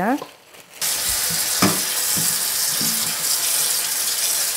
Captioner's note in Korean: 수돗물 튀는 소리